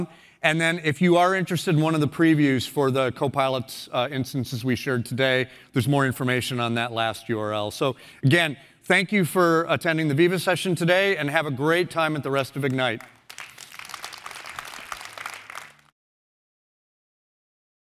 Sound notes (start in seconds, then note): 12.6 applause